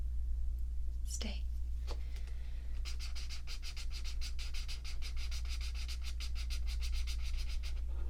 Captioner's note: swatching sounds